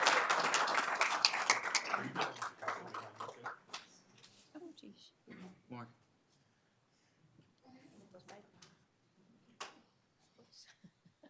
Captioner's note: applauding